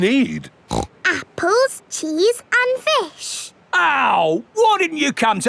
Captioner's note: snorts